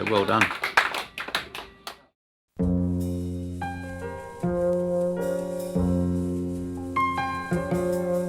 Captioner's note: clapping